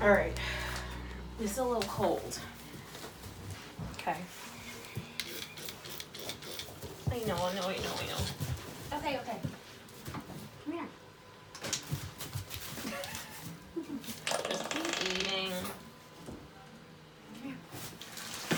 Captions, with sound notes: Alright, this is a little cold. K I know I know I know I know Ok ok, come here. [laughing] [sound of jelly coming out of bottle]